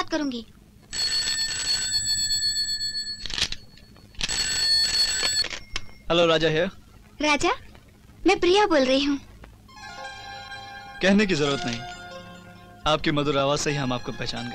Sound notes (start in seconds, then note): 0.8 phone Ringing